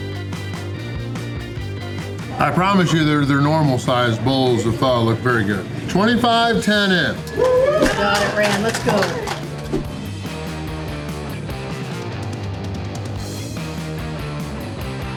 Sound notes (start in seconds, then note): 8.8 crowd cheering